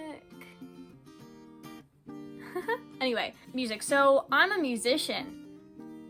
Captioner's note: laughs